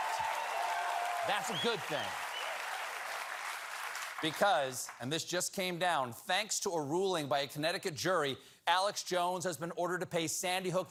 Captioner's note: cheers and applause